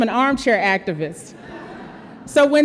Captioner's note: audience laughs